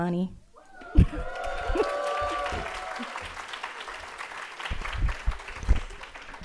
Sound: audience applauding and cheering

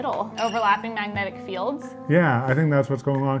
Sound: chime sound effect

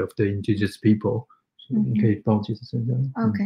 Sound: speaks mandarin

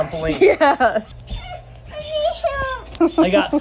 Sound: laughing

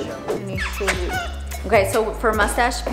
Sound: bird chirping

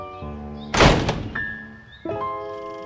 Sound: door slams

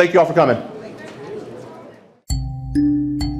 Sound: attendees chattering

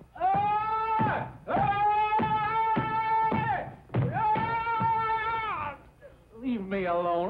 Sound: chair banging

